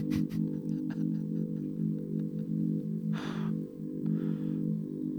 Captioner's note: laughs